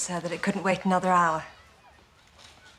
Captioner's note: none